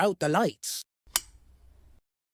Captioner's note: click